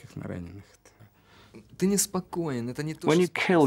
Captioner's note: speaking Russian